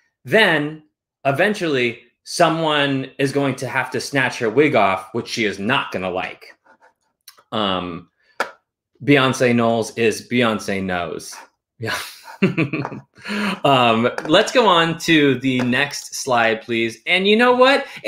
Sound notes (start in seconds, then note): 11.8 chuckles